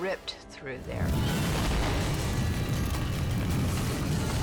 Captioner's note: fire roaring